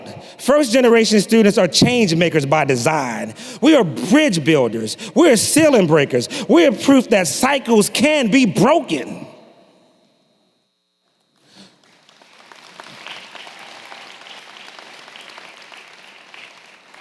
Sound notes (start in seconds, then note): 11.4 applause